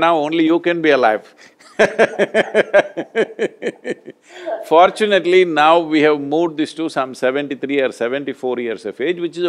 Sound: both laugh

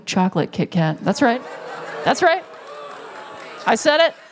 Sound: shock from Audience

